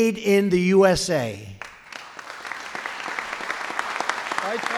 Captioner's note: applause